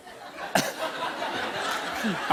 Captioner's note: laughter